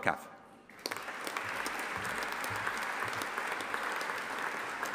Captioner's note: audience applauding